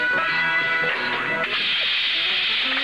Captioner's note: hisses